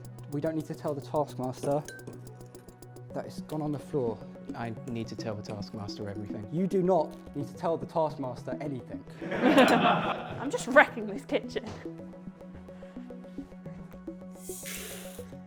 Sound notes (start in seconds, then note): 9.2 laughter